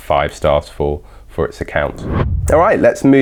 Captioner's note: whooshing